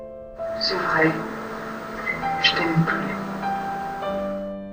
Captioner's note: voiceover of woman speaking in french; sad piano music